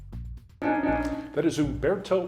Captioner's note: timer beeping